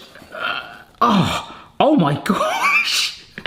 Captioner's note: groaning